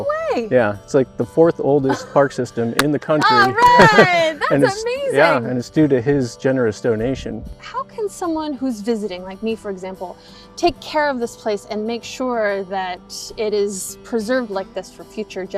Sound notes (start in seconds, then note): 3.2 everyone's clapping; 3.3 laughs